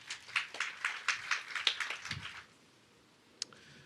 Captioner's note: audience applauds